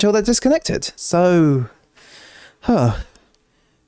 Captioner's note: inhales; sigh